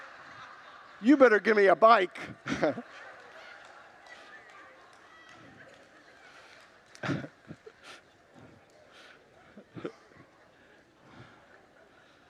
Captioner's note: congregants laugh